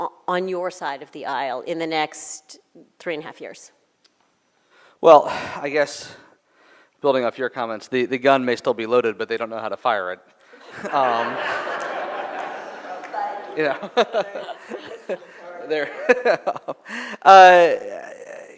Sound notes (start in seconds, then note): 10.6 laughter